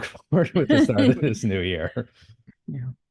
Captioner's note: chuckle